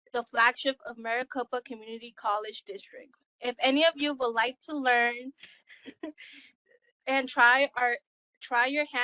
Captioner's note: laugh